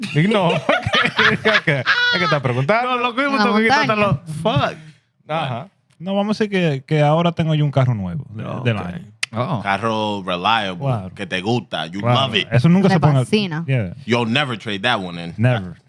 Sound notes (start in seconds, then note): 0.0 speaking Spanish; 0.0 laughter; 0.3 speaking Spanish; 6.5 speaking Spanish; 13.5 speaking Spanish